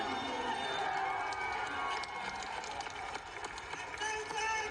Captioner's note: crowd cheering